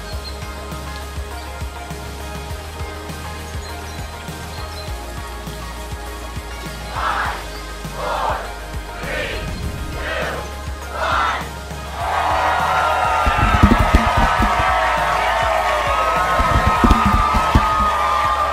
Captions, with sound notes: - [Crowd] Five, four, three, two, one. (cheering)